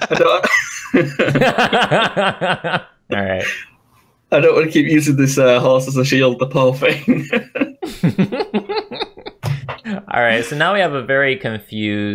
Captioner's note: laugh